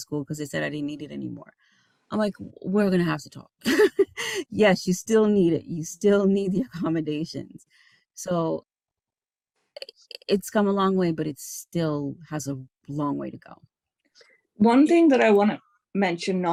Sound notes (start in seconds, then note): 3.8 laughing